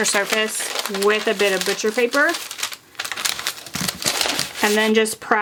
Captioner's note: paper rustling